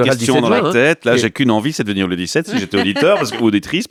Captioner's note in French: Rires